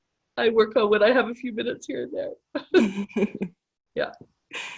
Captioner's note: laughter